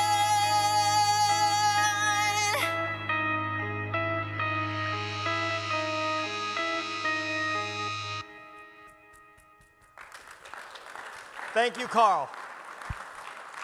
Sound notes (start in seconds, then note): 2.9 slow electric guitar; 9.7 audience claps